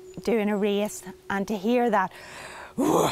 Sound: grunts

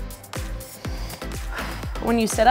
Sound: upbeat music; exhales

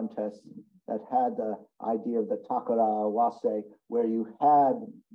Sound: speaks in Japanese

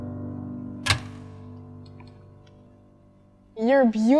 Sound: click

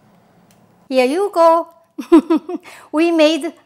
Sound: laughs

